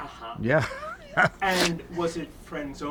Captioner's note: laughs